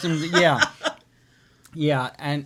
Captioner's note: laughs